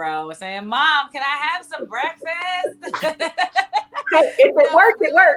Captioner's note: laughing